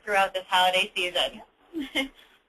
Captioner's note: short laugh